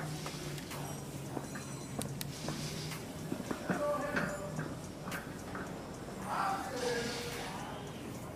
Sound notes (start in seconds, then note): 3.6 indistinct chatter